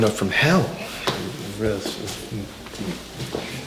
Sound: Jay mumbling

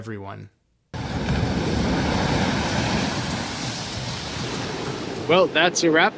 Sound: ocean waves playfully splashing ashore

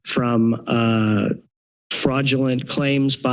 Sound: pause

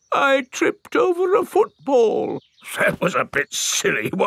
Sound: in normal voice; in teddy's voice; in normal voice

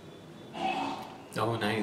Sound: tuberculosis/plague patient coughing upstairs

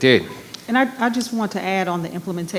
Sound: microphone beeping

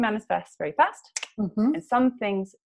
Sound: snaps fingers

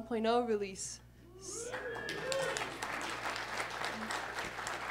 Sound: applause

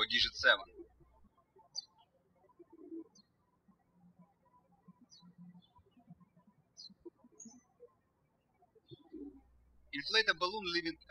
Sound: birds chirping

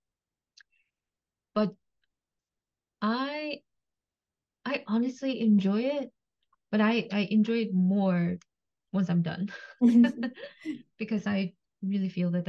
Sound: laughs

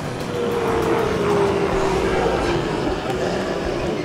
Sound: zombies clamoring

